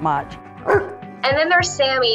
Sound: dog barking

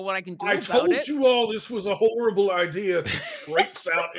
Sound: laughing

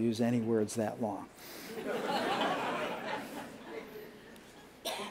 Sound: laughter

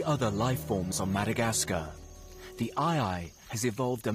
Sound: wind blowing

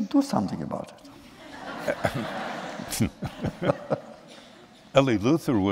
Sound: laughter

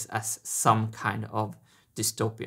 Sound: none

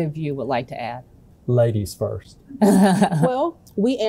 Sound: laughing

